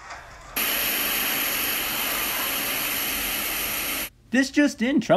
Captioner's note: tv static